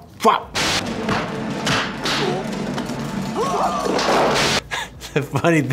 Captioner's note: exclaims; thuds; man exclaims